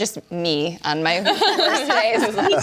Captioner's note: hosts laughing